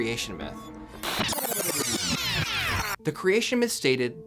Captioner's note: distorted sound